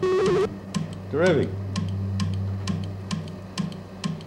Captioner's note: buzzing/beeping; clicks